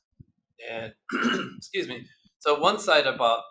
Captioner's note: clears throat